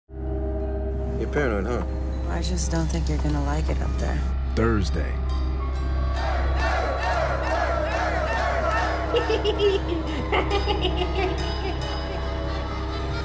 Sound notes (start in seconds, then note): 6.0 chanting; 8.7 laughter